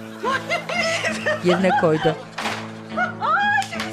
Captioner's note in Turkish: Gülme Sesi